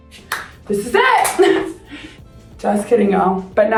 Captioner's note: chuckles